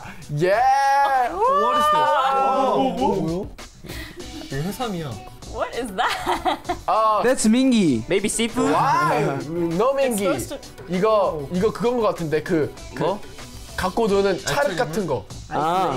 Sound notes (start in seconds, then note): 2.7 speaks in Korean; 11.0 speaking in Korean